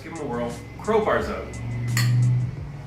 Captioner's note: soft upbeat music; glasses clanking